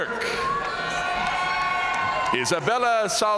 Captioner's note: audience cheering and applauding